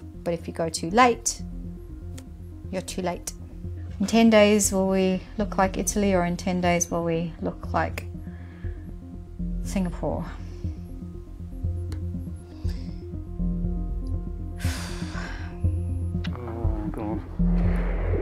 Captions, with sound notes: But if you go too late, you're too late. In 10 days will we look like Italy or in 10 days will we look like Singapore? (sigh) - Oh.